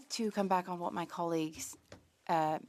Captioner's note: speaking French